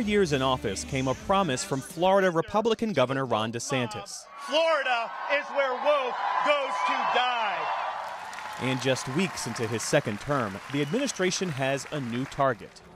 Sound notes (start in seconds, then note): 7.6 cheering and applause